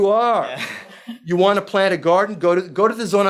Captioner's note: speaking foreign language